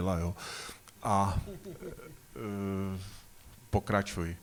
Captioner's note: laughter